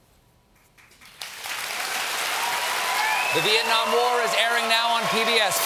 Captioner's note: applause; cheers